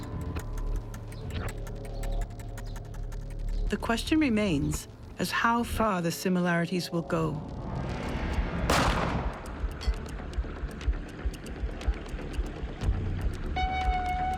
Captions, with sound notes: the question remains as how far the similarities will go. (gun fires) (gentle ominous music)